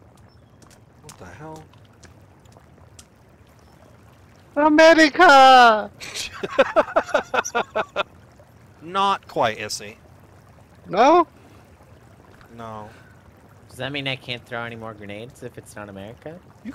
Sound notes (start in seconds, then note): 6.0 laughter